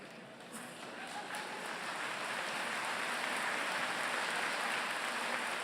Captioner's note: applause